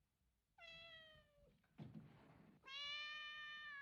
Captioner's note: meows; continues Meowing